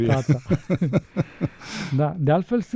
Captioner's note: laughter